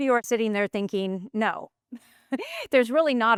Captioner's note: laughs